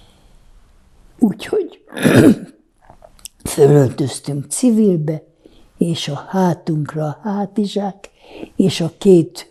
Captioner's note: clears throat